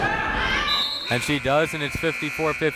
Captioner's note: whistle blaring